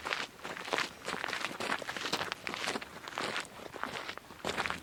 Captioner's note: gravel crunching